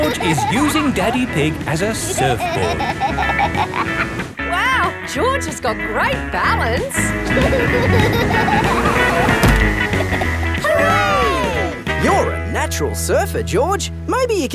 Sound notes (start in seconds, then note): 7.2 laughing